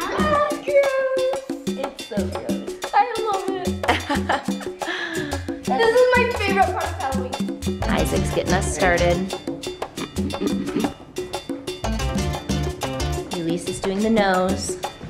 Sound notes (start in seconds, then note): 0.0 everyone laughs; 3.6 woman laughs